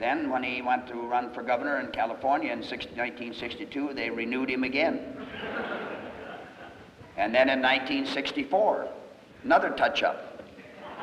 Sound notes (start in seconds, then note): 5.1 laughter